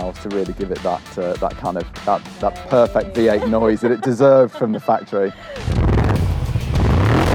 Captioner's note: laughs